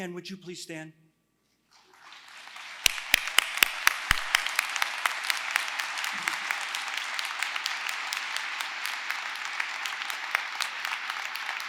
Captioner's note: applause